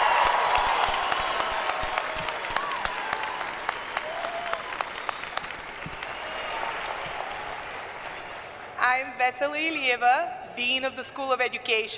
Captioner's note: applause; cheers; applause